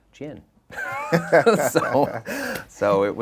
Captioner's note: both laughing